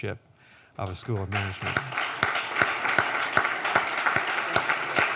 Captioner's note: applause